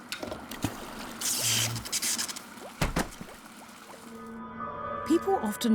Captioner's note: electricity buzzing